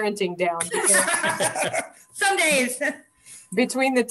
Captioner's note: laughing